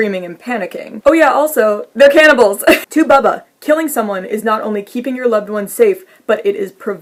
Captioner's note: laughs